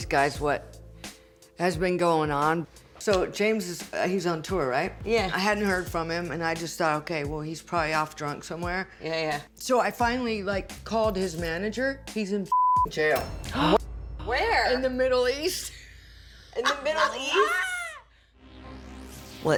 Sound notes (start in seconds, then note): 16.5 laughs